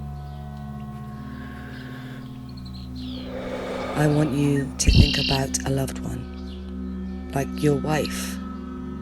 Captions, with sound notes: [breath] I want you to think about a loved one like your wife